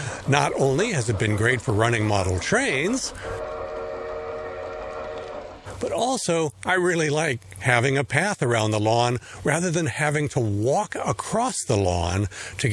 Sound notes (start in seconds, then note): 3.1 sound of a train horn